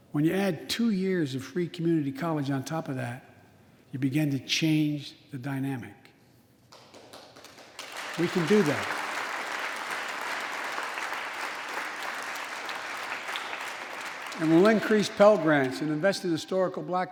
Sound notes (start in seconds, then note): 9.5 applause